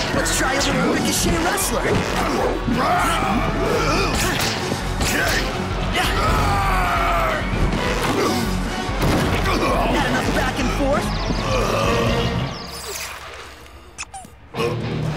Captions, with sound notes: Let's try a little ricochet wrestler. [YELLS] Had enough back and forth?